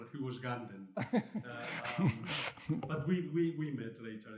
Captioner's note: laughs